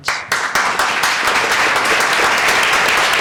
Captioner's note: applause